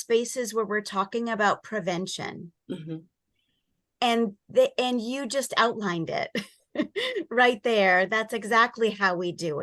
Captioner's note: chuckle